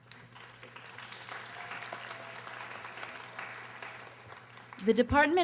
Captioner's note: audience applauding